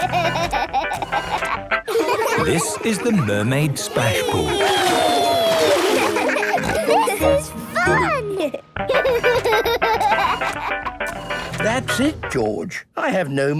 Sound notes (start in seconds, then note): 0.0 upbeat music; 0.3 giggling; 6.8 giggles, snorts; 8.8 giggling; 10.9 music fades